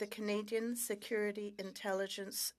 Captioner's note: speaking French